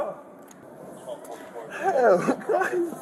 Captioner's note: radio chatter